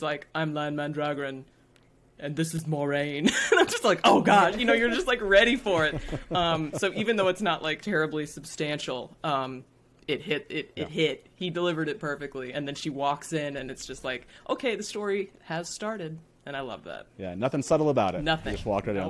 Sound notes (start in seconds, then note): 4.0 all laughing